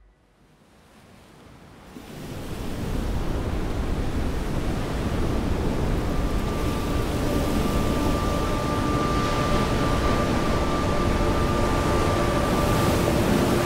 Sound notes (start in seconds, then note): 3.1 waves gush; 10.5 gentle tense music